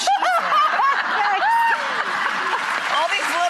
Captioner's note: laughter and applause